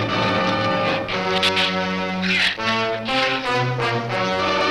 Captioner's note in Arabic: ثرثرة الزبابة